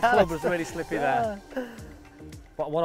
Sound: laughter

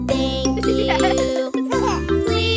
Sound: giggles

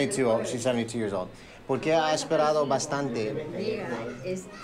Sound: Spanish

